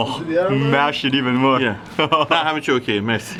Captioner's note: laughing; speaks in foreign language